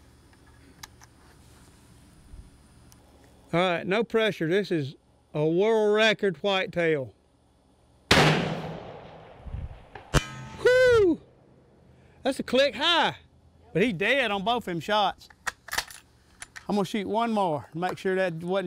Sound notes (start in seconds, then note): 8.1 gun fires; 10.1 clang